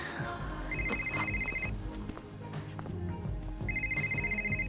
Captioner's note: cell phone ringing